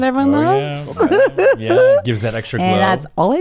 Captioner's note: laughs